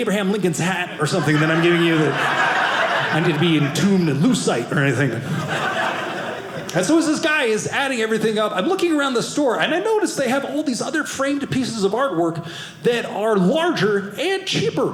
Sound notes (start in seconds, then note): 0.8 audience laughing